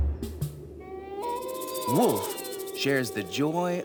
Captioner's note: wolf howling